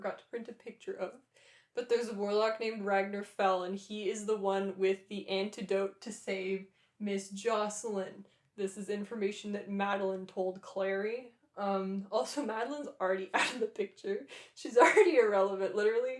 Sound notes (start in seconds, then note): none